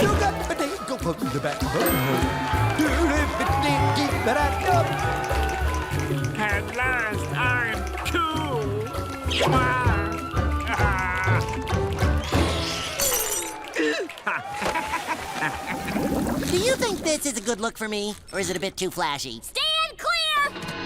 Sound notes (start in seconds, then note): 0.1 crowd cheers; 0.1 singing well again; 10.6 excitedly; 13.7 gasps, then chuckles